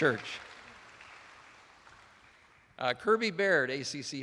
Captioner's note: attendees applauding